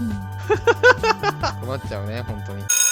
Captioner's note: laughter